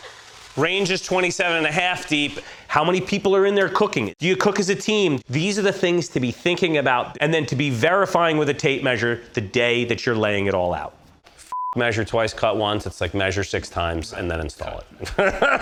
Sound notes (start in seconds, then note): 11.5 beep